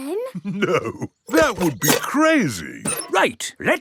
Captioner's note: chuckling